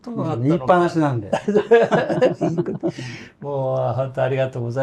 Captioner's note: laughs